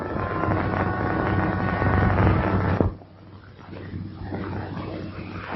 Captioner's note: thunder; thunder